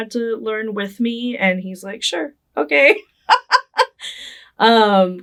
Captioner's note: laughing